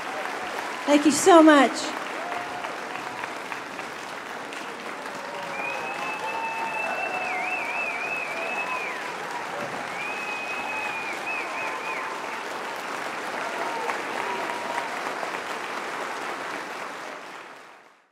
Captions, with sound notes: Thank you so much. [Whislting, cheering, applause]